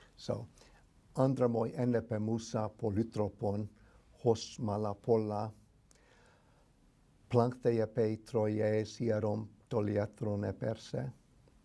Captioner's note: reciting in greek